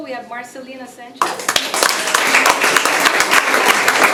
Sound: applause

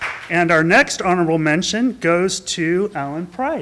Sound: applause

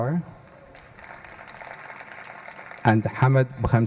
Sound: audience applauding

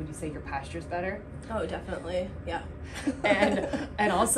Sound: chuckling

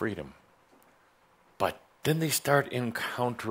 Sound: none

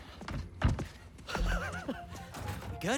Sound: laughs

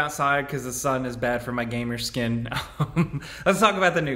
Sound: chuckles

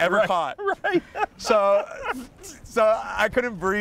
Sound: laughs

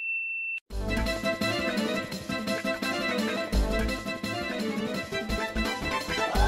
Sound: quarreling

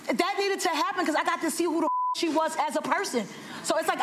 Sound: beep

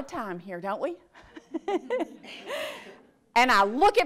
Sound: audience laughs

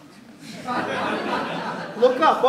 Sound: laughter

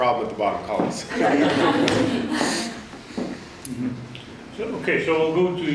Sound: audience laughs

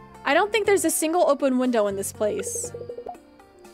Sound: none

